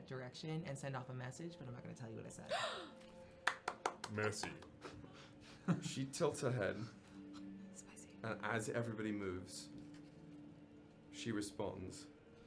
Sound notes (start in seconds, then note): 2.5 gasps; 3.4 claps